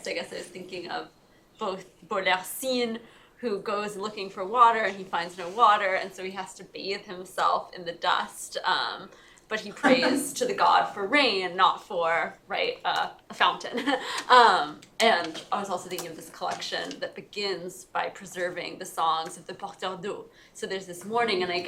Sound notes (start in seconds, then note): 19.8 french